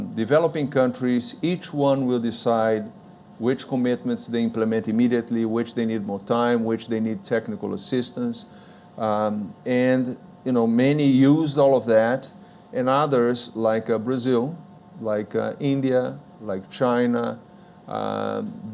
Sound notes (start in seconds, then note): none